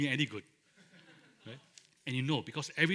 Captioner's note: laughter